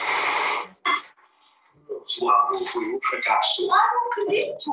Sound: non-english speech

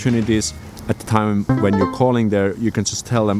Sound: ding

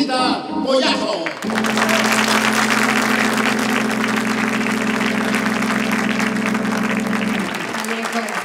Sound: applause

